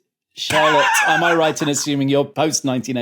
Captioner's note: wheezes